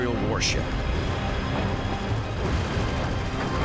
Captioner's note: explosions